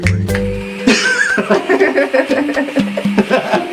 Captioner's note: both laugh